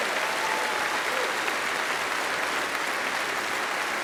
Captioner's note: applause